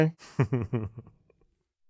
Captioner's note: laugh